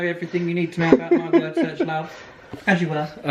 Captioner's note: laughs